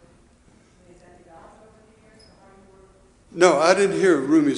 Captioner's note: murmurs